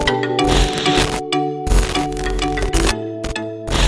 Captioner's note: glitch sound effects